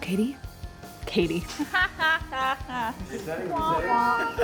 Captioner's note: laughs